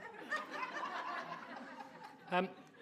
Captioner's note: audience laughing